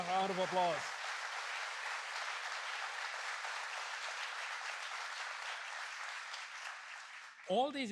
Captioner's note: applause